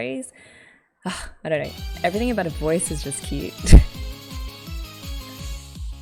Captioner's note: laughs